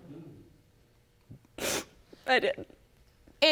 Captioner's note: sniffling